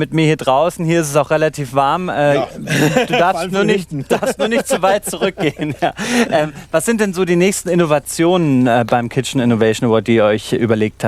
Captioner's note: laughing